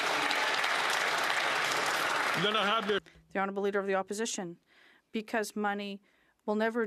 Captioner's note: some Applause